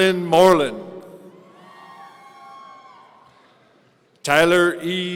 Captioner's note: audience cheering